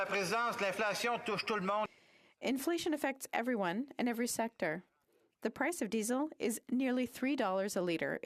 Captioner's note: speaking French